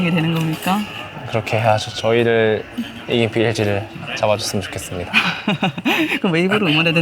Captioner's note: laughs